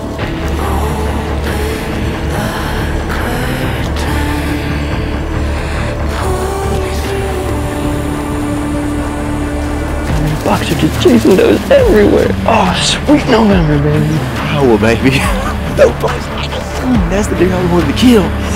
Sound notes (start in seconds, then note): 15.0 laughs